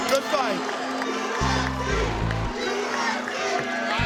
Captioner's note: crowd shouting "UFC"